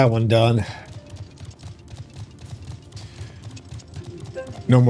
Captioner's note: gun firing